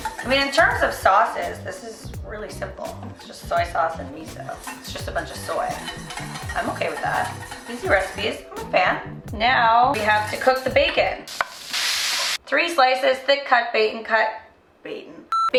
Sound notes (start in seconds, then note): 11.4 pan sizzling; 15.3 beep